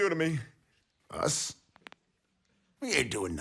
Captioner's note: bones crack